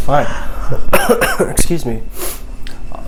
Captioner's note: coughs